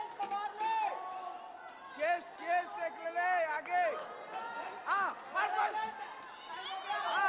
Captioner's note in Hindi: तालियां